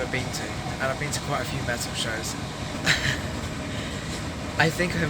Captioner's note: laughs; laughing